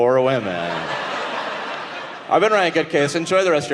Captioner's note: audience laughing